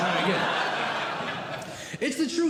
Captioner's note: audience Laughing